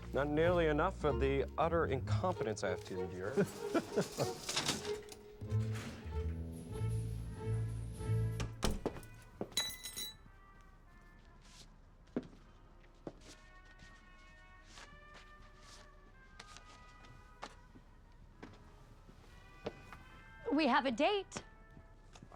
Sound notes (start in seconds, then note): 3.2 chuckles; 8.1 music playing from gramophone; 9.5 keys clanging